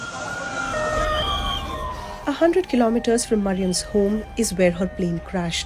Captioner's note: siren blaring